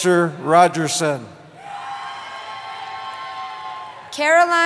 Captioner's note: cheering